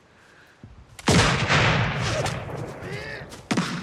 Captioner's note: gunshots booming